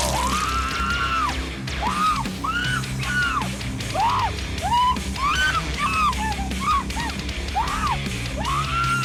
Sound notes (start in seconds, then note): 1.6 prisoner screams; 3.8 dramatic metal music